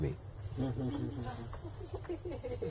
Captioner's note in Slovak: Smiech